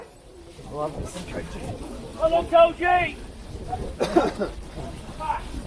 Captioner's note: excited shouts and sounds of running on grass